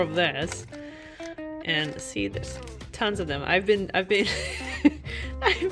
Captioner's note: laughs in "I have a tea problem"